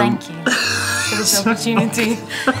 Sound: Will laughs

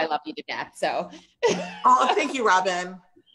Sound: laughs

